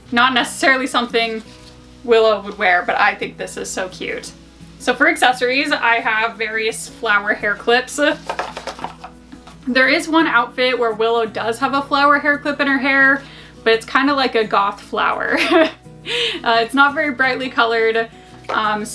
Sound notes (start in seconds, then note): 8.2 boxes clattering; 15.8 laughs